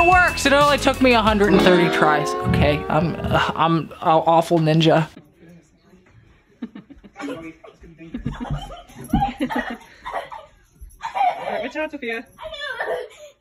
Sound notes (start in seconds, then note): 7.0 lady chuckles; 7.0 laughs